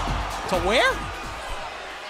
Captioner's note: crowd cheering